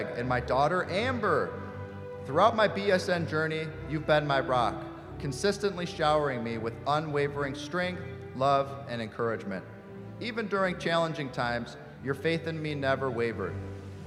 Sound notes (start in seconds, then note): none